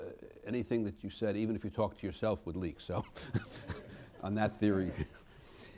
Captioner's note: laughs